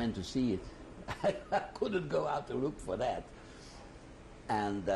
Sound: laughs

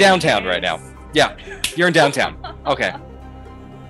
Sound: laughing

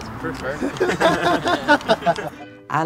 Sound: laughter

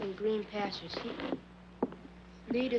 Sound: footsteps banging

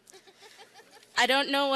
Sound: laughing

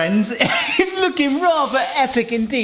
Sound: laughing

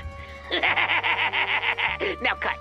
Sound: Crim laughs

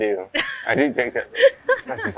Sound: laughs

